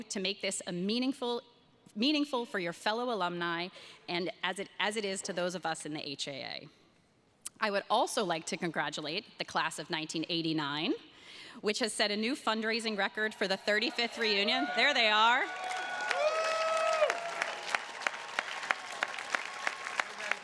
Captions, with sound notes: to make this a meaningful for your fellow alumni and as it is to those of us in the HAA. I would also like to congratulate the class of 1989, which has set a new fundraising record for the 35th reunion. There they are. (attendees cheers and claps)